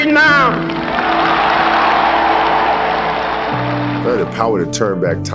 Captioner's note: audience applauds